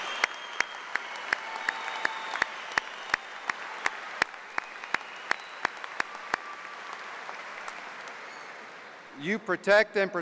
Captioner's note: cheers and applause